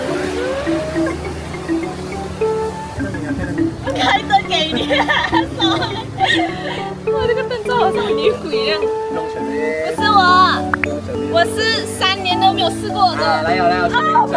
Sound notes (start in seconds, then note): 2.9 laughs